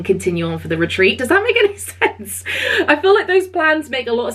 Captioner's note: laughing